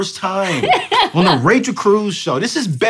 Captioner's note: laughs